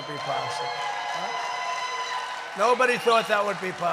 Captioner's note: applause